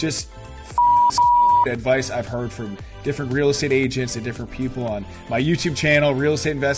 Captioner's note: beep